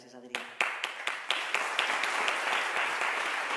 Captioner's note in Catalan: Aplaudiments